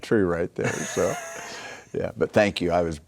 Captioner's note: laughing